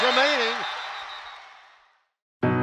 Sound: announcer's voice fades to silence

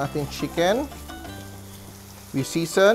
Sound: sizzling sound

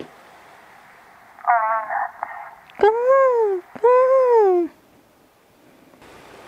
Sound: seagull caws

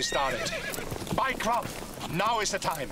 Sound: horse whinnies

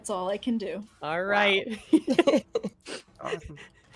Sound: laughs

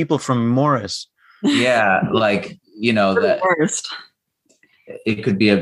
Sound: laughter

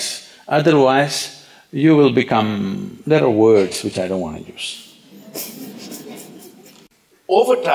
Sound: laughter

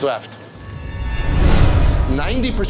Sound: logo whooshes

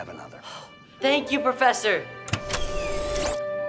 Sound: sighs

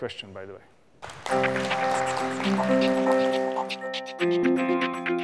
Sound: applause and outro music

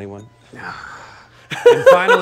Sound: laughs

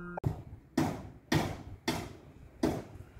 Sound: loud banging

